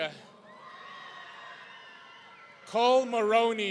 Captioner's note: audience cheering